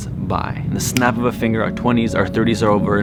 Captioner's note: snaps finger